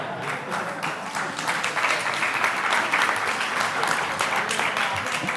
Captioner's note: audience applause